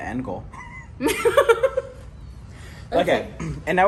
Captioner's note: both laughs